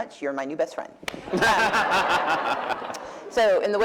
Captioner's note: laughter